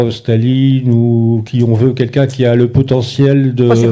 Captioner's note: speaking in French